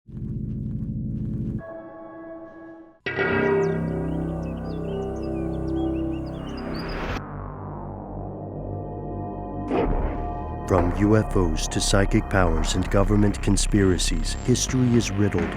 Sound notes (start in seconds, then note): 3.1 suspenseful music; 10.9 voiceover